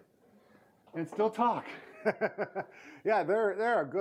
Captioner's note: laughter